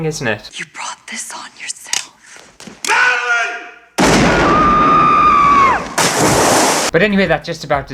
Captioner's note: screams!